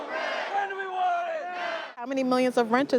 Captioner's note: crowd protesting